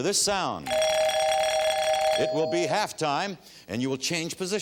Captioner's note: bell ringing